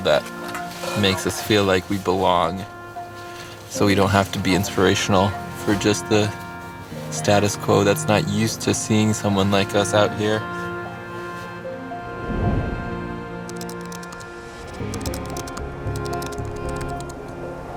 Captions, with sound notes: that makes us feel like we belong. So we don't have to be inspirational for just the status quo. That's not used to seeing someone like us out here. [Typing]